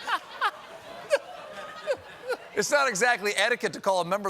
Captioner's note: laughter